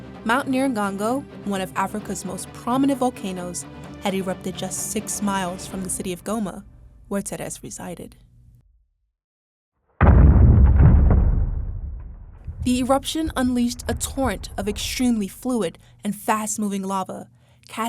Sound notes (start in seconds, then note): 10.0 volcano booms